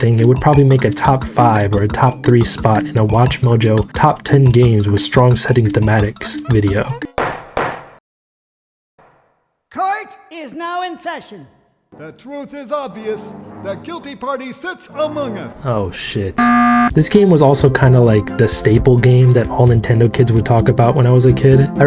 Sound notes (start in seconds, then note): 7.2 judge gavel slams twice; 16.4 Among Us alert blares